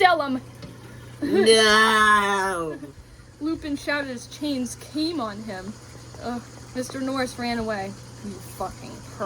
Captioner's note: moans